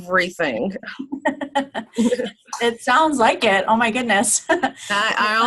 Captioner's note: laughing